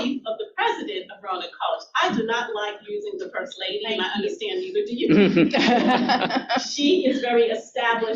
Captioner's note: audience laughter